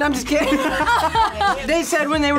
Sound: group laughs

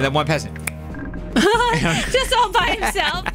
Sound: both laugh

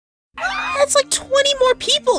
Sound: screaming

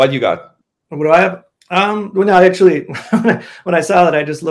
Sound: chuckles

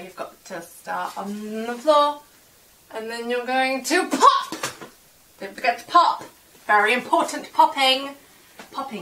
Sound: pop

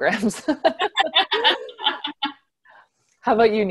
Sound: laughs

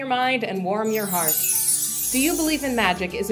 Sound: twinkling

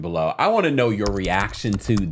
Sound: keys typing briskly

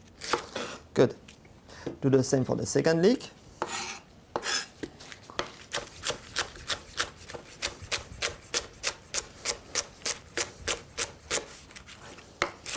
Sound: cutting sounds; cutting sounds

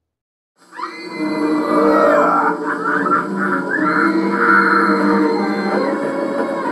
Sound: horror movie sounds from TV

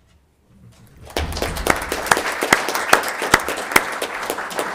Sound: all applauding

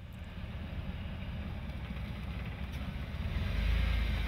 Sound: car engine

